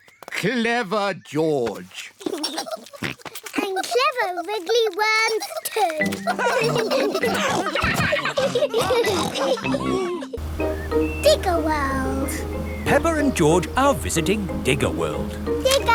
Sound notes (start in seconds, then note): 5.3 all laugh